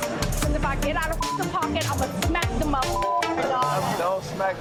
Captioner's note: beeps; beeps